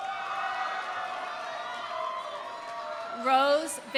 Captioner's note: audience applauding; audience cheering